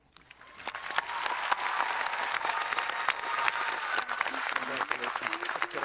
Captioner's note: audience applauding and cheering